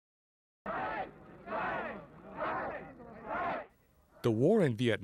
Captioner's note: chanting "Strike!"